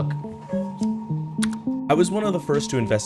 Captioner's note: key clicks